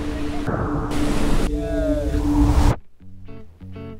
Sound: water running; guitar music

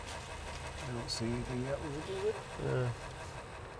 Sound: murmurs

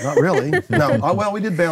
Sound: laughing

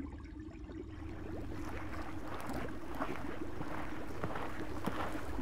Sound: manatee chewing vegetation

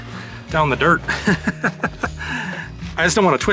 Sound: laughter

